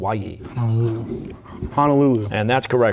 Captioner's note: whispering